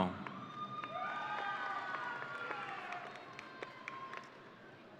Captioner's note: audience cheering